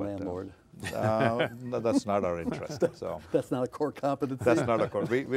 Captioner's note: laughing